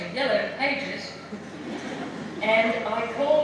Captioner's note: laughter